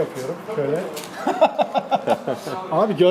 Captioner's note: laughs